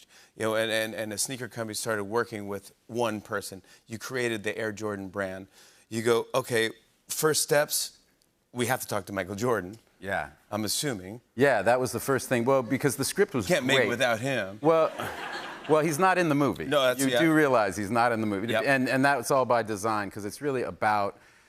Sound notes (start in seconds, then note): 14.7 laughter